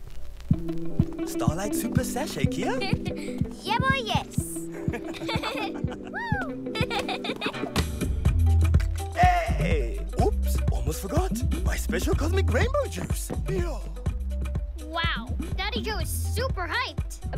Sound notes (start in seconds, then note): 4.6 giggles; 4.7 laughter